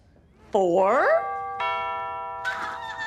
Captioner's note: doorbell rings